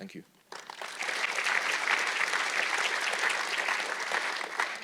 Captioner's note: audience clapping